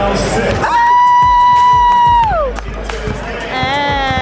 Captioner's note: screaming